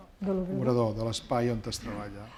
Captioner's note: speaking spanish